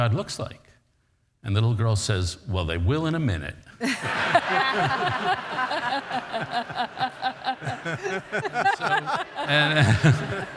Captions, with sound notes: nobody knows what God looks like. And the little girl says, well they will in a minute. (audience laughs)